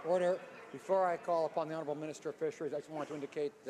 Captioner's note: some applause